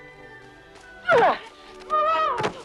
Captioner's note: Hundra grunts; Hundra shouts